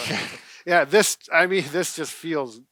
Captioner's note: chuckling